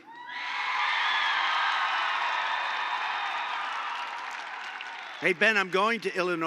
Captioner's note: applause